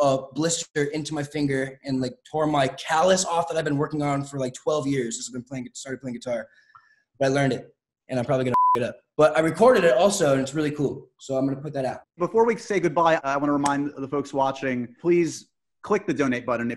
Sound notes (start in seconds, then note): 8.5 beep